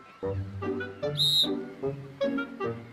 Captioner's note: whistle blows